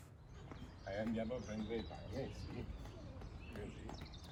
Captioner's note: speaking in Italian